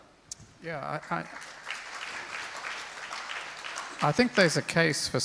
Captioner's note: crowd applauds